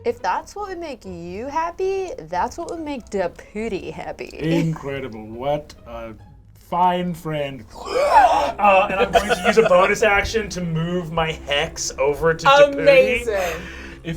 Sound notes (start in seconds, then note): 7.7 screeches